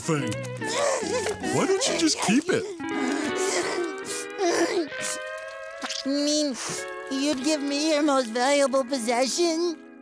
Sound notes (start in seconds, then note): 0.2 crying